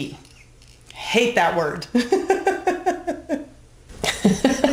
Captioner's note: laughs